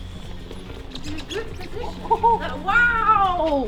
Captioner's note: gentle music; wheels screeching